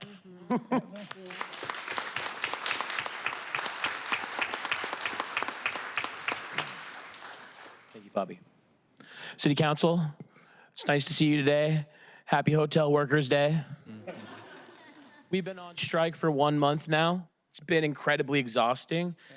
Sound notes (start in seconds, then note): 4.5 applause